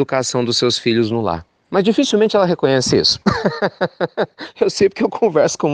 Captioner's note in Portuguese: risos